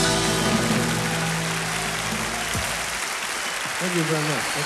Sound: audience cheering

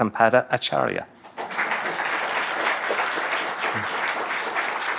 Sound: audience applauding

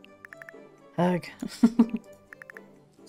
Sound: laughs

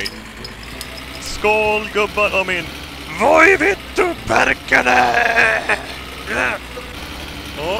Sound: speaking Swedish

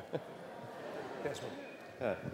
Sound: laughter

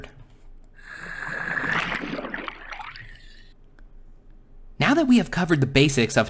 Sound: water whooshing

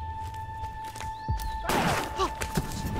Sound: gunshot

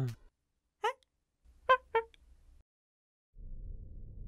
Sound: alien talk

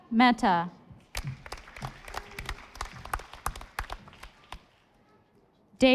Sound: audience applauding

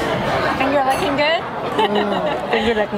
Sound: laughs

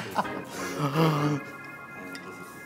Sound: gasps

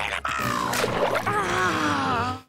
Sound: sighing

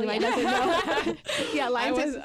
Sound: group laughs

